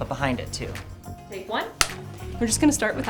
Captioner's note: camera slate claps